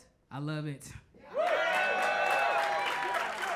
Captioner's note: crowd cheers; crowd applauds